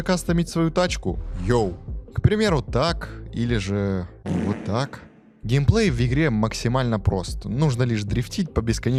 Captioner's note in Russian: пук